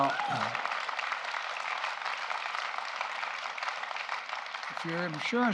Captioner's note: applause